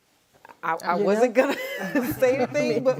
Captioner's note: laughs